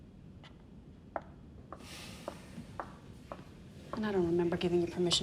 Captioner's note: footsteps tapping